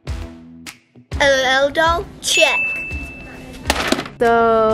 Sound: upbeat music; ding

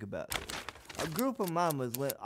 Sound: newspaper unfolding

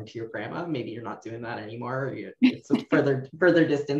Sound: laughs

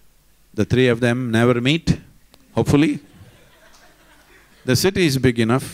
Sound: Smích

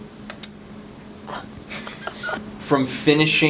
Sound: laughing

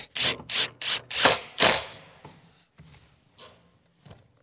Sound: screwing

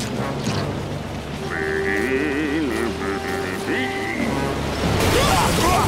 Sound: humming

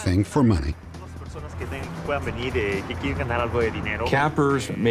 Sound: non-english speech

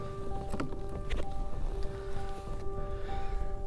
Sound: breathing

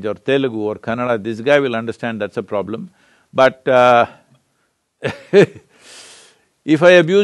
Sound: laughs

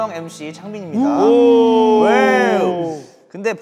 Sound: booing

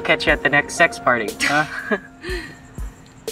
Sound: both laugh; poignant music

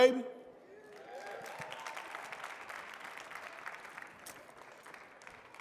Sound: audience clapping

